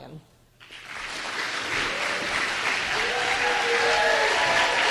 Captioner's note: applause and cheers